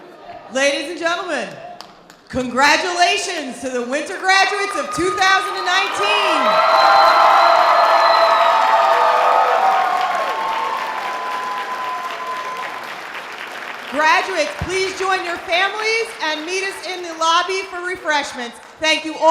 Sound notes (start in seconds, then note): 7.2 loud audience applause; 7.2 sustained audience cheers